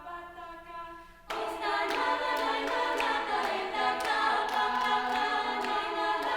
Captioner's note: chorus members clapping in time